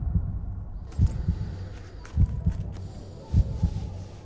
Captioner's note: heartbeat slows and background fades; rustling of buckles and clothes; heartbeat continues to slow